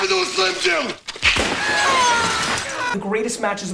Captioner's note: crashing and yelling